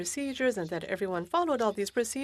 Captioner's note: speaking French